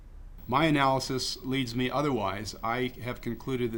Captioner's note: speaking in foreign language